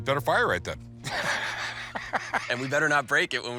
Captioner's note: laughs